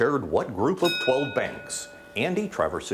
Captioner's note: bell dings